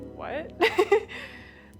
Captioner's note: laughs